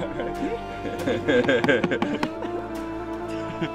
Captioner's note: laughs